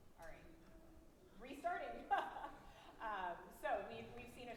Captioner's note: laughs